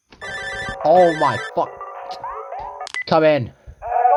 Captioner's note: ringtone